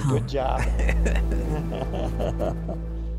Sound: chuckling

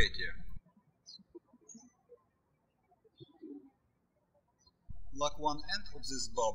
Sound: birds chirping

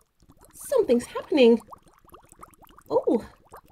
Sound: teacup bubbling

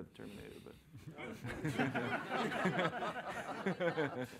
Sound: laughter

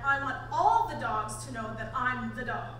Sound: none

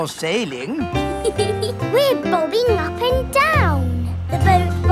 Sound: giggles

